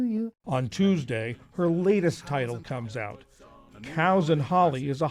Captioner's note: voice-over